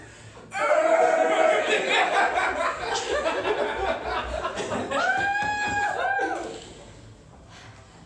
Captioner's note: laughter